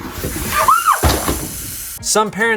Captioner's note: screams